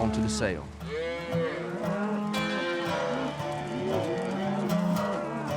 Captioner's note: cows mooing